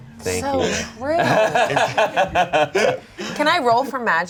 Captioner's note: laughing